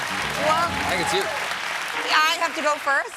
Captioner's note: piano riff; cheers and applause